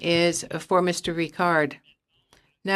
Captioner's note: speaking in French